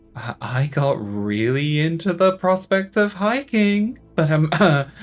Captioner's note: nervous cough